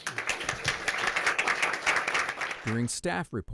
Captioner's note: applause